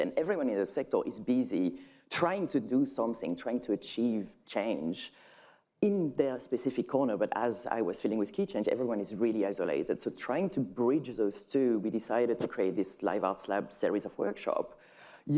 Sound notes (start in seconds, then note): none